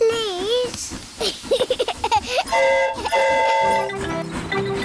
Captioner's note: giggles; train horn toots